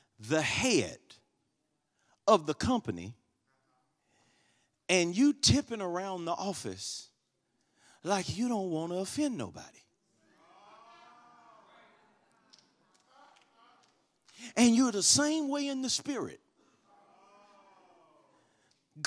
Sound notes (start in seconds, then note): 10.6 congregation shouts